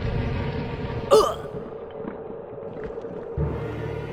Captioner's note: grunts